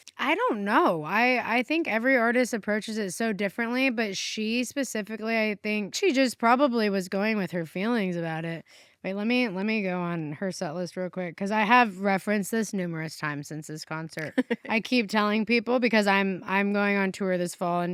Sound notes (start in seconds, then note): 14.2 chuckles